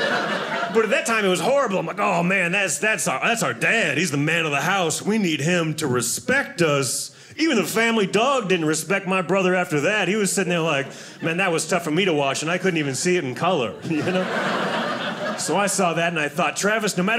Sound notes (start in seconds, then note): 13.6 audience laughing